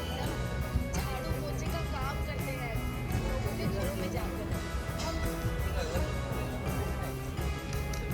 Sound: small chatter in background

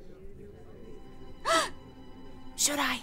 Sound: gasp

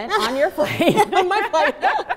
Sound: laughing

